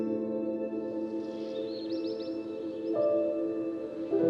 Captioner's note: birds chirping